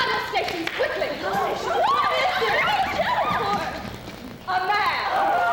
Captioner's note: chaotic shouting